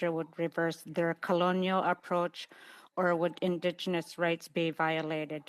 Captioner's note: speaking Indigenous Language